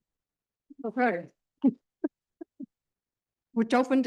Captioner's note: chuckles